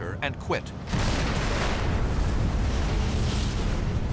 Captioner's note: explosions